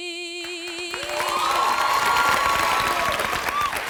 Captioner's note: applause